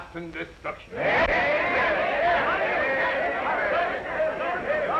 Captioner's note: crowd murmuring